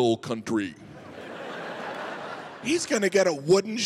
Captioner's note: audience laughs